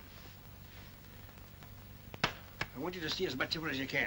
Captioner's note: patting sound